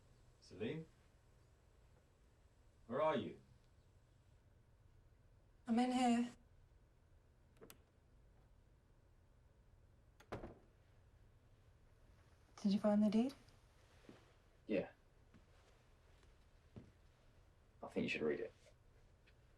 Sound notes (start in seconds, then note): 10.2 door closes